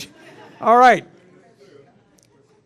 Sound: laughter

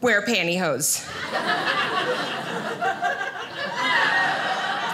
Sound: audience laughing

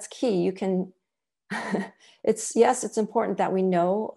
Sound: laughter

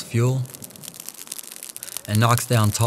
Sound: fire crackling

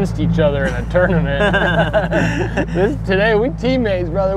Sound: both laughing

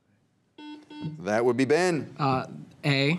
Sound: teammates whisper; buzzer beeps

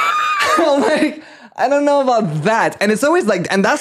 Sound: laughing

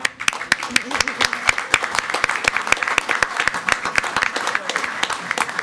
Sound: everyone applauding

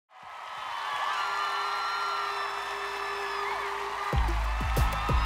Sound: applause

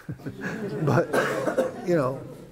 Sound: laughter

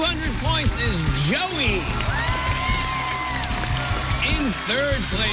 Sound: cheers and applause

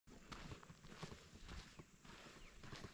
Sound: birds chirping and crunch of feet hitting the ground

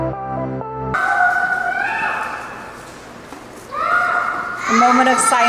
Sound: children shouting in background

